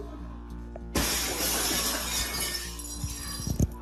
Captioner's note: brick breaking window